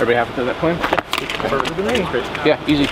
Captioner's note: speaks faintly